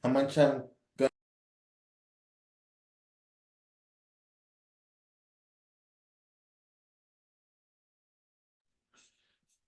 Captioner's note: audio off